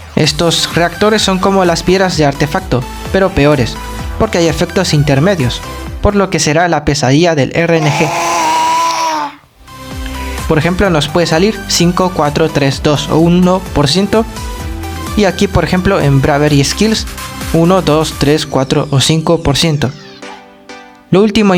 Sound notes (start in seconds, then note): 7.6 ahhhhhh